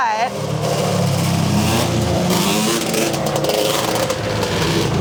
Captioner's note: bike engine roaring